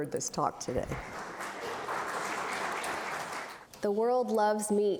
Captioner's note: applause